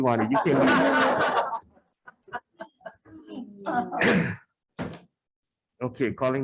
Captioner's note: attendees laughing